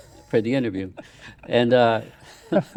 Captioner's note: laughing